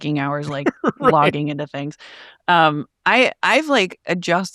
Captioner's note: laughing